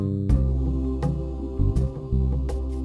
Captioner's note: none